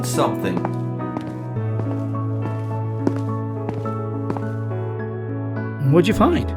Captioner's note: hurried footsteps